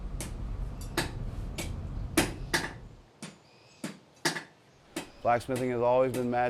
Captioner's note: hammering